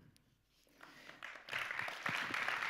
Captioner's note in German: Applaus